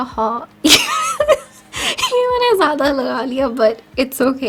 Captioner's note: laughs